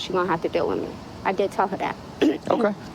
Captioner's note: clearing throat